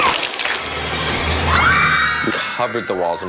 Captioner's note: blood whooshing; ladies screaming